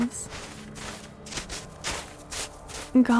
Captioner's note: brushing sounds